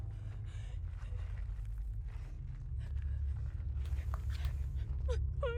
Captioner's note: Hailey panting